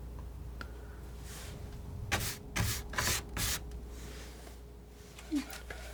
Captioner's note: scratching